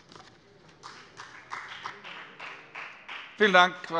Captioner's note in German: Beifall bei der FDP